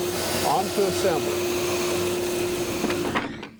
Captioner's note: machine vibrating